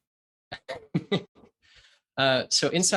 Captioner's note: chuckles